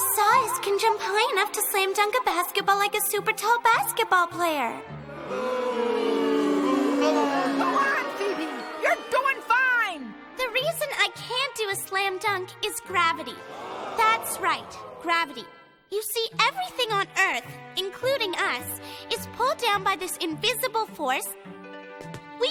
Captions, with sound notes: CAN JUMP HIGH ENOUGH TO SLAM DUNK A BASKETBALL LIKE A SUPERTALL BASKETBALL PLAYER. [ CROWD BOOS ] GO ON, PHOEBE. YOU'RE DOING FINE. THE REASON I CAN'T DO A SLAM DUNK IS GRAVITY. THAT'S RIGHT -- GRAVITY. YOU SEE, EVERYTHING ON EARTH, INCLUDING US, IS PULLED DOWN BY THIS INVISIBLE FORCE...